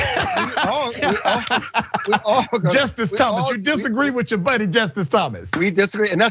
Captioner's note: laugh